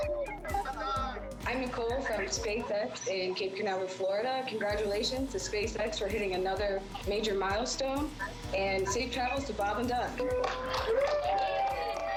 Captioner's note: cheering